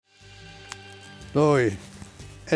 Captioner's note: fire crackling